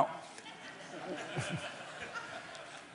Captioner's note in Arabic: ضحك